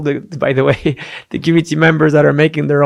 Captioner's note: chuckles